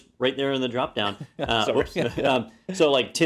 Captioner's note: laugh